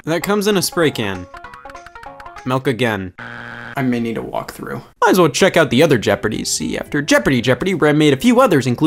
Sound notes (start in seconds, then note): 3.2 buzzer beeps